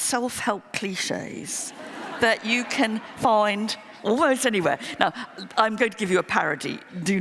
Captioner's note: laughter